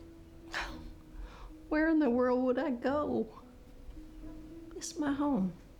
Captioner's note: scoffs